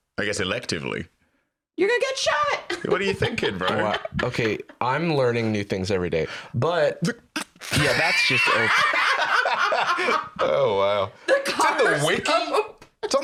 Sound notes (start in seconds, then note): 7.6 laughing